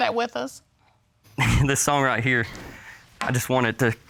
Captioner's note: laughs